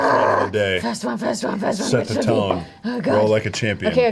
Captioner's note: screams